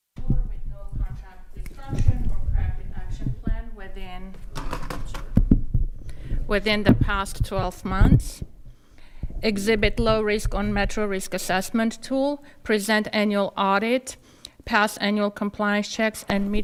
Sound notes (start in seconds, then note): 5.2 microphones clattering